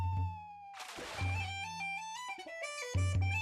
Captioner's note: water splashing